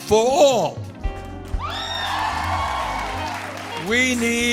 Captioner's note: cheers and applause